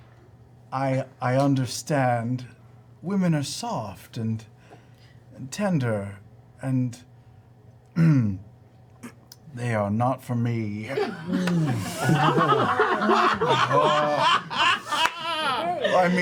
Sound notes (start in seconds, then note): 7.9 clears throat; 10.9 laughter